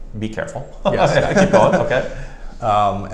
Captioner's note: laughs